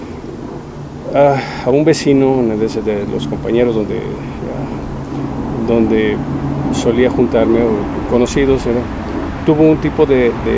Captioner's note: sigh